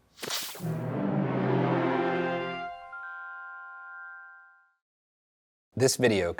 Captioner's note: static hisses